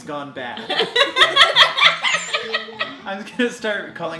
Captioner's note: laughing